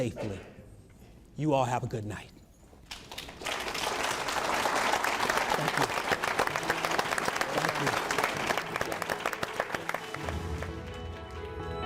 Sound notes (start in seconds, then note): 4.4 clapping